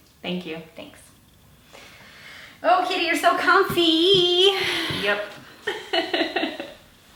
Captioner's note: giggles